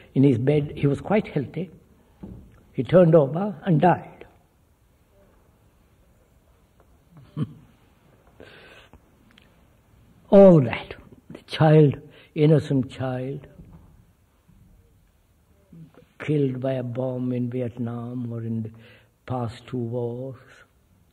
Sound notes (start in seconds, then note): 5.5 laughs